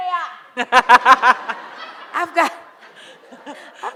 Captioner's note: audience laughs